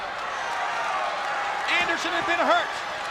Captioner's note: spectators cheering